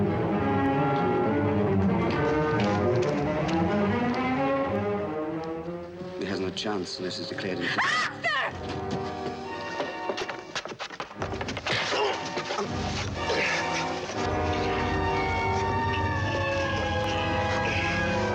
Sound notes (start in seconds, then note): 13.2 grunting